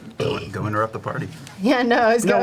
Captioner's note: burps